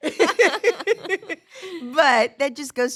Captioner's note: everyone laughs